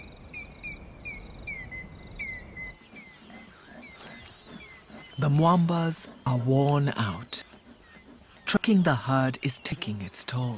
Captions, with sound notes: (panting) The mwambas are worn out. Tracking the herd is taking its toll.